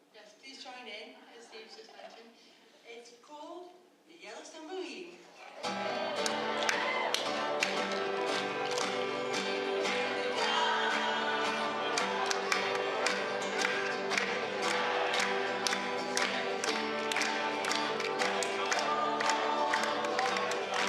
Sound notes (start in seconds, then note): 6.5 applause